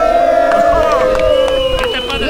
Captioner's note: crowd cheering